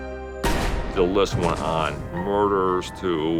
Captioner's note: gun bangs